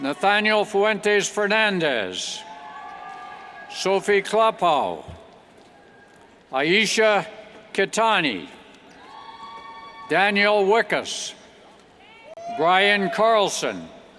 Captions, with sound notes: Nathaniel Fuentes Fernandez, (cheers) Sofie Klapon, Aaisha Khetani, (cheers) Daniel Wykes, Brian Carlson,